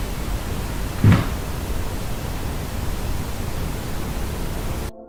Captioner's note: bumping